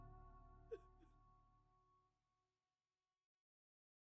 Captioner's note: weeping